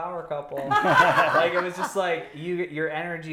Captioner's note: laughing